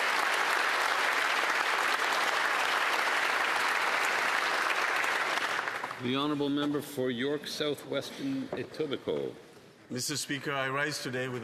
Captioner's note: applause